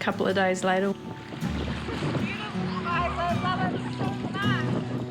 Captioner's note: children laugh